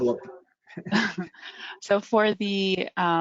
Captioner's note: chuckles